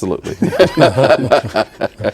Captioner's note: laughing